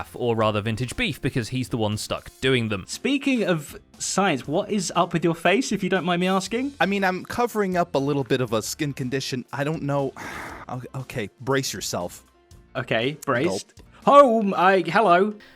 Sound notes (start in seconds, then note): 10.1 sighs